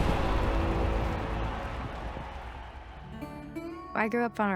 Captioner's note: crowd cheering